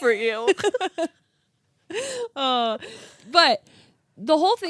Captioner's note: laughing